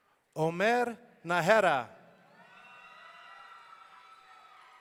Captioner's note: audience cheering